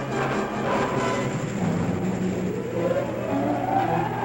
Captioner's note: whirring